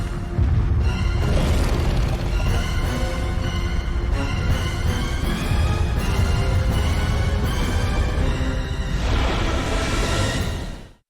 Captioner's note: more angry T Rex noises